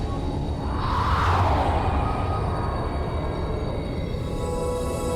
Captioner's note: asteroids whooshing